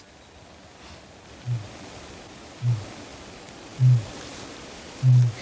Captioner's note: kakapo booming